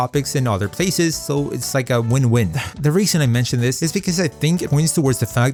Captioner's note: sigh